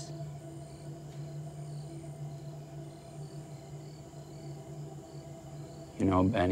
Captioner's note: crickets chirping; tense music